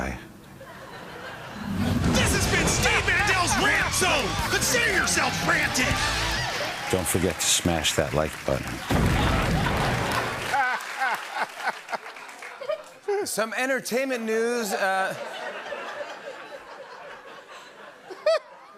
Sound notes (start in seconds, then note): 0.6 laughter; 8.8 laughter and applause; 15.0 laughter